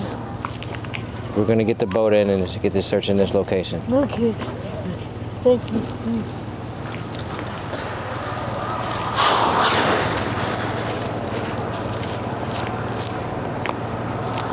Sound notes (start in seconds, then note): 7.0 motor droning; 7.9 sighing